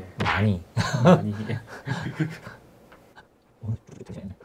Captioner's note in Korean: 웃음